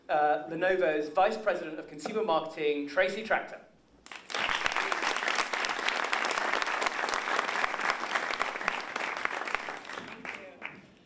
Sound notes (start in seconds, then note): 4.0 applause